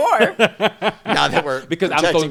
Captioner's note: laughing